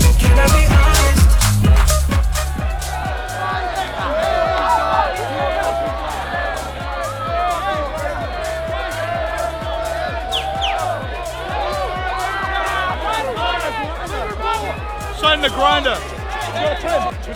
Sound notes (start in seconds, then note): 3.2 crowd cheering; 10.3 whistling